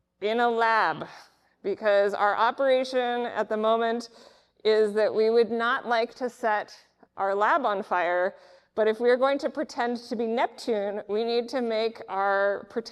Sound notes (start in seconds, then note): none